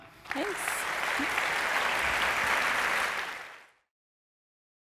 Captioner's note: audience applauds